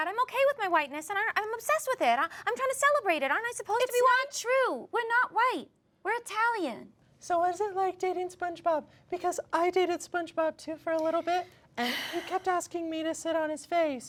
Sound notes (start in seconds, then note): none